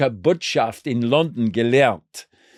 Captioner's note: speaking German